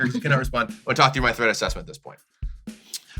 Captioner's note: sighs